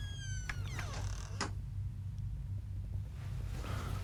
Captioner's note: door creaks